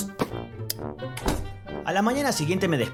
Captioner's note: light switch click, door thud